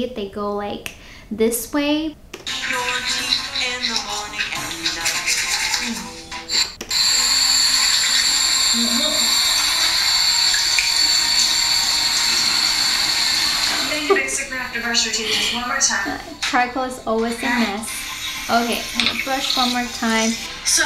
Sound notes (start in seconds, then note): 7.4 water burbles